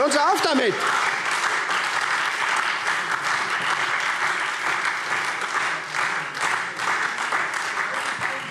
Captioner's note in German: Beifall SPD und Freie Demokraten